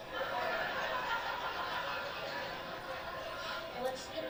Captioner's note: laughter